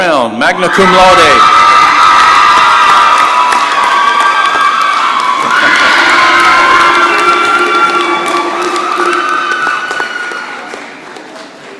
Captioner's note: cheering and applause